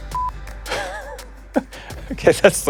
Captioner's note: beep; laughing